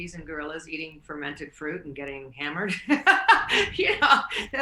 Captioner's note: laughs